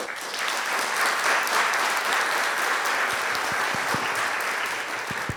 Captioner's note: audience applauds